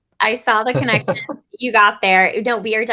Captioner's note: laughs